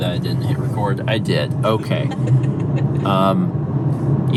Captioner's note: laughing